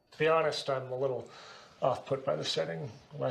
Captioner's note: none